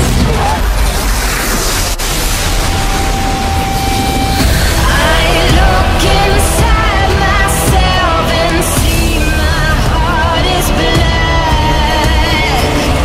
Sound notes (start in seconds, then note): 0.1 mystical light noises; 8.7 mystical light noises